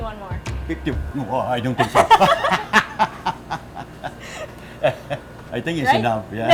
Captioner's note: laughter